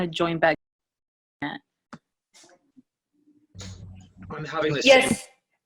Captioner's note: multiple voices from the background